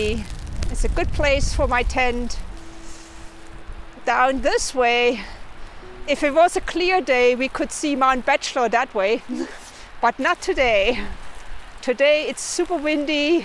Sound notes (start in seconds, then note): 9.4 laughs